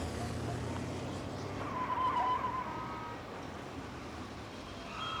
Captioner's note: tires screeching